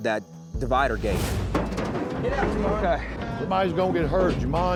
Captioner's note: clattering sounds